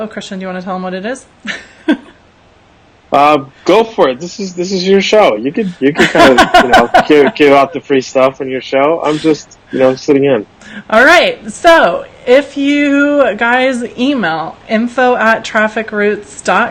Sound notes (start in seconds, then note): 1.4 laughs; 5.9 laughs